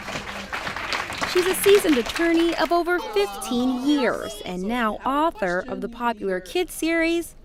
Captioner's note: applause